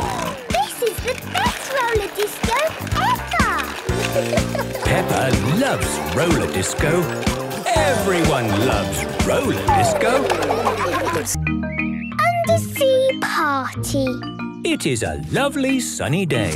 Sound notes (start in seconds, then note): 0.0 snorting; 9.3 laughter